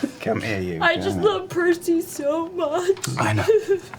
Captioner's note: tearfully